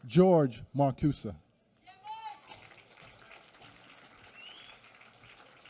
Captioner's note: applause